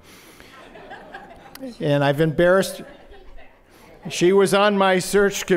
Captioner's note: laughter